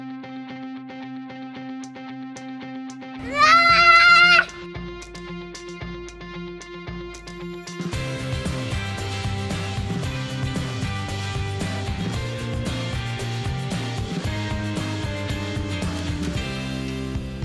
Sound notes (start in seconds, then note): 3.2 screaming; 5.1 upbeat music